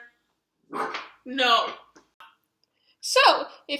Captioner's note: dog barks